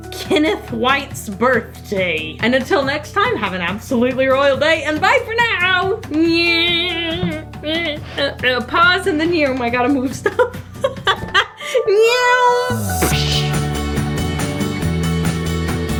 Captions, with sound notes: Kenneth White's birthday, and until next time, have an absolutely royal day, and bye for now. (hums) Pause in the neow, I gotta move stuff. (laughs) Neeeoooww psh! (light music)